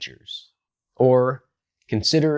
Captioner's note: beat